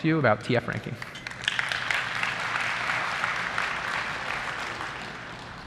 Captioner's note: applause